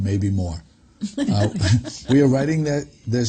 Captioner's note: laughs